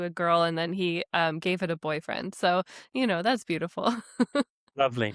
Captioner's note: chuckles